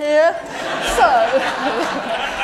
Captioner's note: laughter